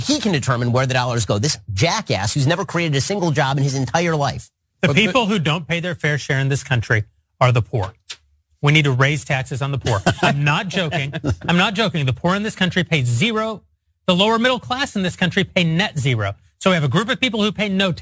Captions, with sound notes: determine where the dollars go. This jackass has never created a single job in his entire life. >> The people who don't pay their fair share in this country are the poor, we need to raise taxes on the poor. [LAUGH] >> I'm not joking, the poor in this country pays zero, the lower middle class in this country a net zero. So we have a group of people who